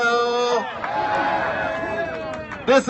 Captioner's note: cheers